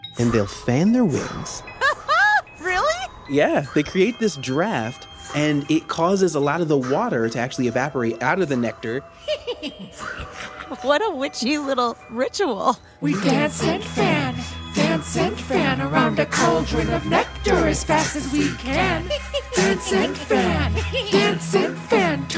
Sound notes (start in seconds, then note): 2.7 fwoo! Fwoo!; 10.8 A bee cackles as if a witch